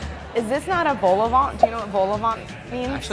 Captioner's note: bubbles popping